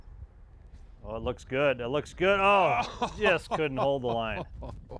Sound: laughs

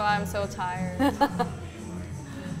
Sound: laughs

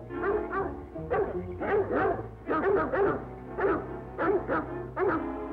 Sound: barking

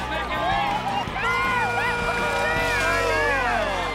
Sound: all shouting

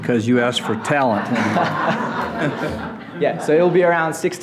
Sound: audience laughing

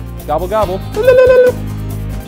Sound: turkey noises

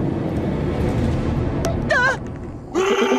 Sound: shrieking

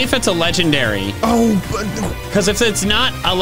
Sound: stammering

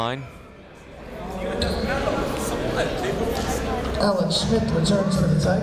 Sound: chatter

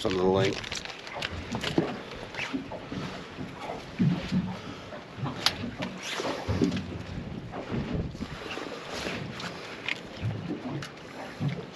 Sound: water lapping

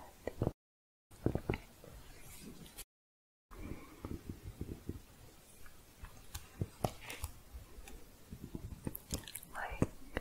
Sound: sporatic tapping and typing

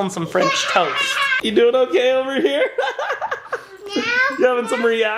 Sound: giggles

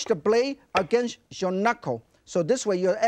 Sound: knife thuds

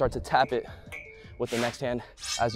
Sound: whoosh

